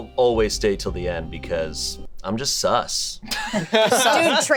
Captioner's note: group laughing